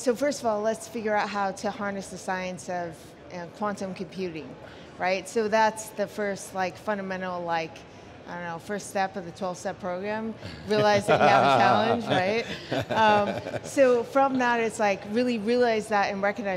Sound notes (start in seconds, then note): 12.3 laughs